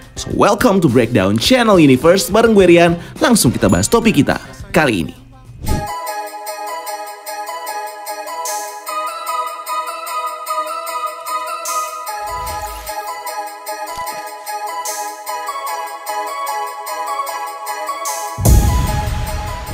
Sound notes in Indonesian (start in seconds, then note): 5.6 suara transisi; 5.8 opening music